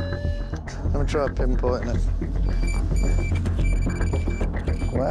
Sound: beeping

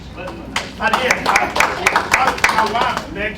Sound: applause

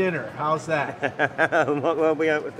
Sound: laughs

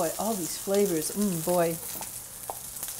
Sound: oil Sizzles

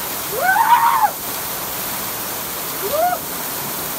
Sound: screaming

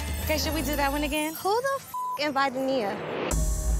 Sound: beep

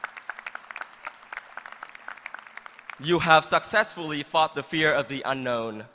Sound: applause

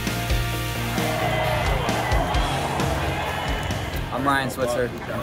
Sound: crowd cheering

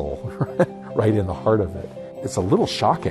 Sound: chuckles

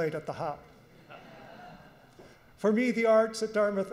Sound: audience laughs

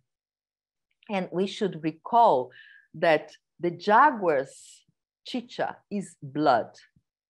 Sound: non-english speech

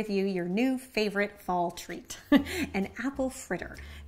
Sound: laughs

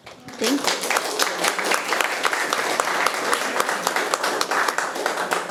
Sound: attendees applauding

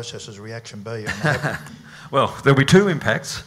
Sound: laughter

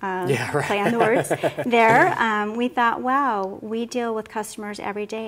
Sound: laughter

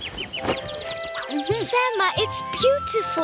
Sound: birds chirping

